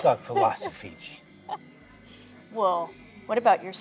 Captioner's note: Keely laughs